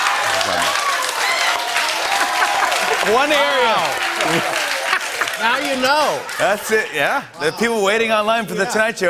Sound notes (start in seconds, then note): 2.0 laughter